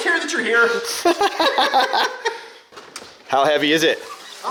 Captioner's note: laughing; laughs